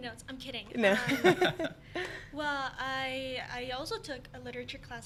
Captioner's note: laughing